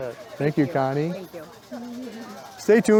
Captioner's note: laughs